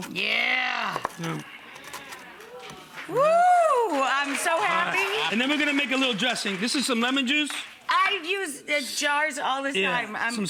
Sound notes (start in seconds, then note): 1.5 audience cheering; 3.6 audience applauding